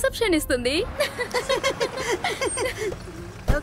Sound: laughs

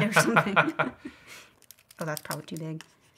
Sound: laughing

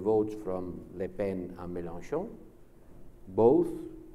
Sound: speaks French

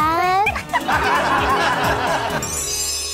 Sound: laughs

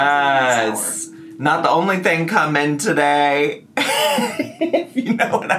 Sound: laughs

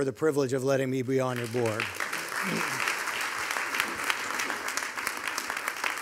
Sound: audience applauding

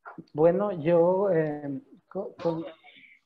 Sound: in Spanish

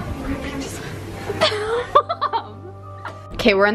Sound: laughs

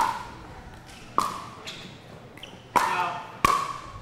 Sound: ball bouncing

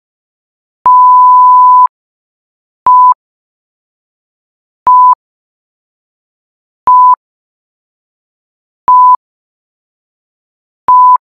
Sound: beeps

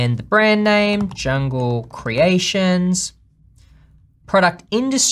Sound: fast typing

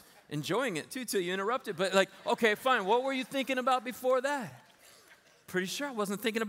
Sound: laughter

